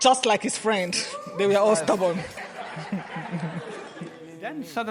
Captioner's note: guests laughing